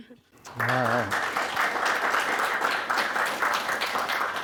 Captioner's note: audience applauding